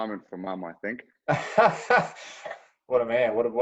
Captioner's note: chuckling